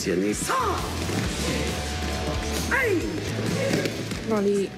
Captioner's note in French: cri de karaté